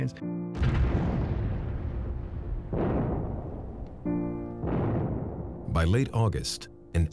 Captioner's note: bombs going off